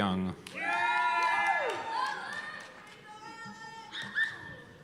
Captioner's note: cheers and applause